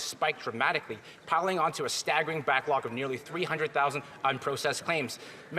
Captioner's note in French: voix de l'interprète